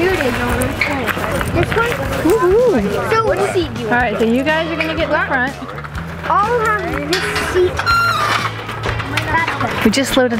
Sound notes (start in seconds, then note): 7.7 seat squeaks